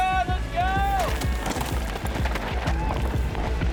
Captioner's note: cheering